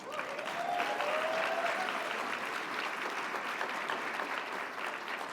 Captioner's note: audience cheers and applauds